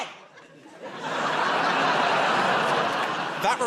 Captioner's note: laughter